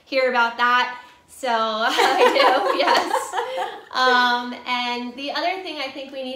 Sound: laughs

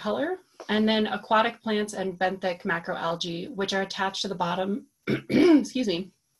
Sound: clears throat

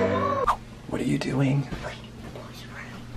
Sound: light music; whispers

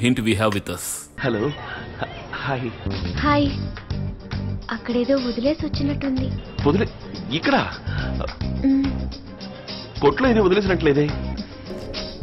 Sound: movie playing in the background

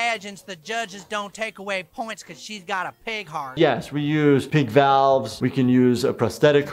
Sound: none

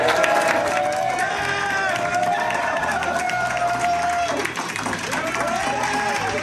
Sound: crowd clapping and cheering

